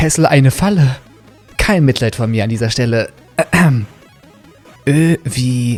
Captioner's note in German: räusper